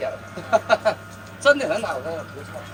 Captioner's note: laughing